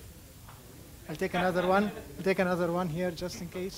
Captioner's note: laughing